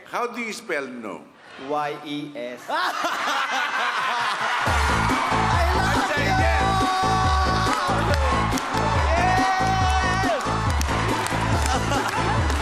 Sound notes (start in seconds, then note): 2.6 crowd/judges laughing; 6.0 laughing